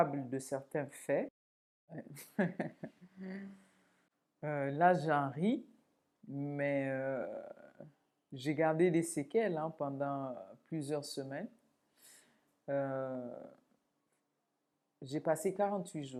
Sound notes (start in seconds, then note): 2.0 laughs